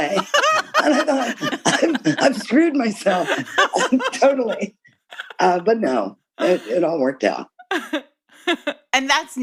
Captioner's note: laughter